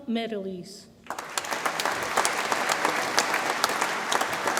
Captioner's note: audience applauds